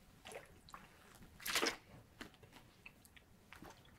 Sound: water splashing

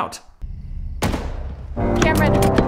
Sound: gunshot

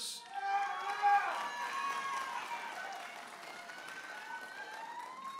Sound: audience applauding and cheering

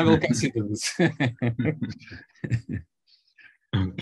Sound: laughs

